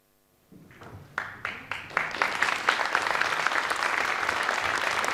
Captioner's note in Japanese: 拍手